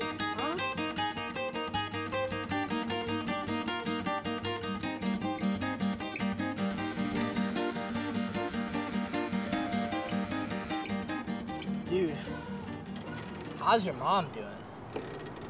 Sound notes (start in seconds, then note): 0.2 gentle guitar music; 6.4 buzzing